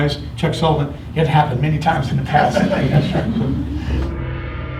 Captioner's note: laughter